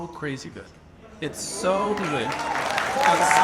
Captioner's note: audience applauds and cheers